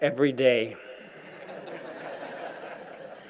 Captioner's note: laughter